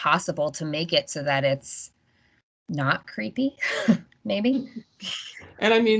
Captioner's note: laughing